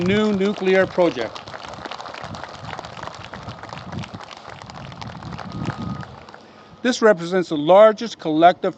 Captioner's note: applause